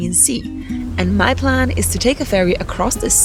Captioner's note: water stirring